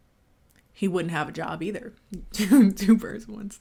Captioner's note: music stops; chuckling